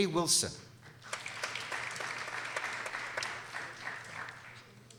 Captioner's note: people applauding